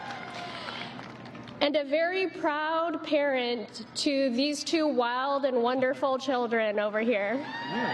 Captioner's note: chanting